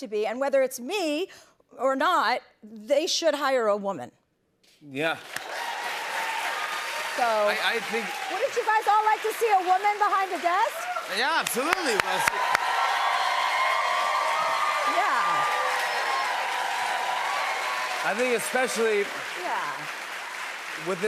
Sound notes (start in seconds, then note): 5.3 cheers and applause; 12.8 cheers and applause